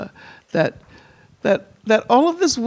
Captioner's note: none